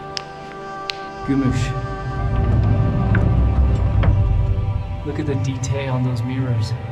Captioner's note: dirt clatters; wood creaks